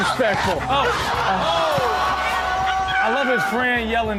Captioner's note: people shouting